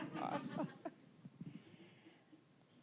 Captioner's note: all laughing